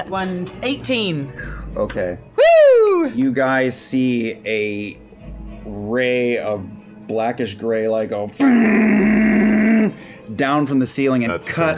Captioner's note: thrumming sound